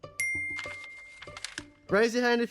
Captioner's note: bell dings